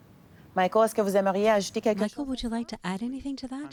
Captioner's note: speaking French